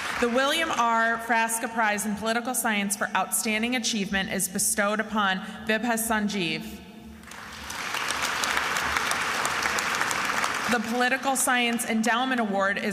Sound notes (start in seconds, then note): 0.0 attendees applauding and cheering; 7.2 attendees applauding